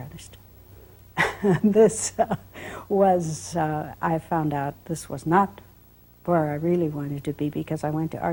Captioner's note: laugh